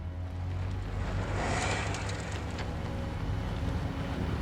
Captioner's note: engine starting; Humvee rumbling